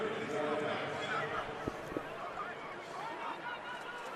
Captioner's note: pa announcement